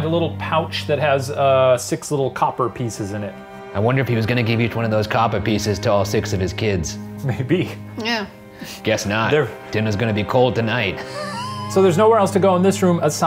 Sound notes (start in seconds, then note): 11.0 laughing